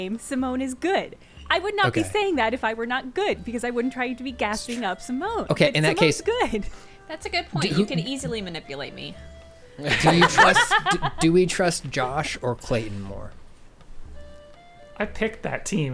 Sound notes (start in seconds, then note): 5.6 pat; 9.8 laughing; 11.8 pat